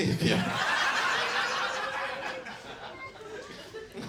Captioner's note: audience laughs